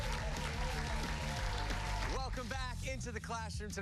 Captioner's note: cheers and applause